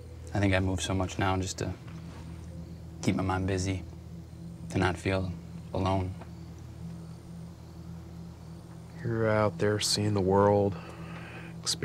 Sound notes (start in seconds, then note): 6.2 crickets chirping